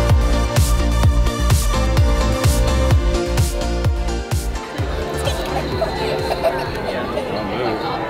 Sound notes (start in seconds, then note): 4.8 giggling